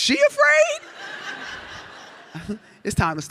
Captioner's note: audience laughs